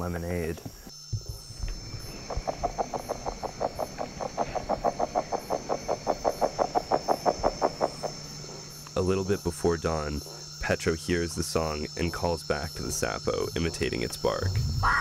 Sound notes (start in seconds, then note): 1.8 sounds of amazon